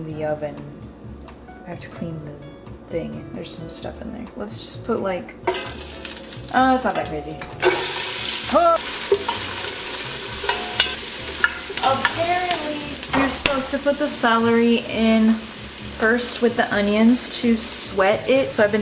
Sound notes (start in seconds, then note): 7.7 pot sizzling